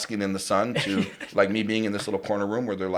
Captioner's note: laughs